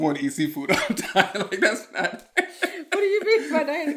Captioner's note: laughing